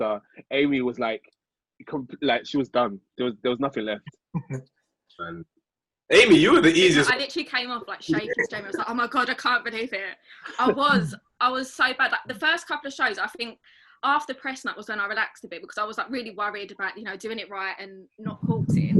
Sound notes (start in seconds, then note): 6.8 speaking faintly